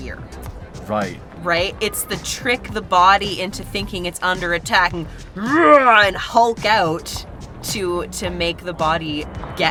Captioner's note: growls